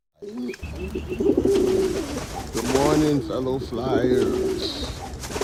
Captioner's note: pigeons cooing